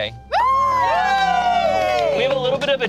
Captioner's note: group cheers